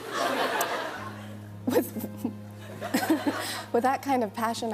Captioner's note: laughs